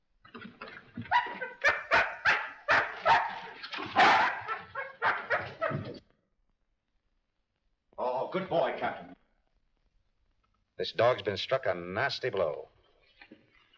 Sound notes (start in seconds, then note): 1.0 dog barking and scratching